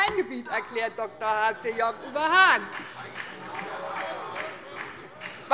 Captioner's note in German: Vereinzelter Beifall BÜNDNIS 90/DIE GRÜNEN